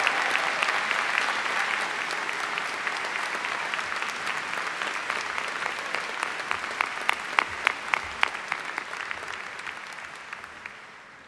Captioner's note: applause